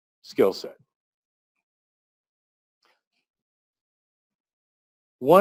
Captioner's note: pause